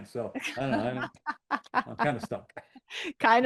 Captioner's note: laughing